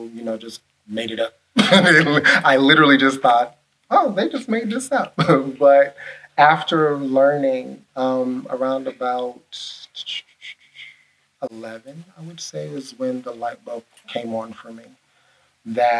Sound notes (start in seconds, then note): 1.6 laughs; 7.7 vocalizes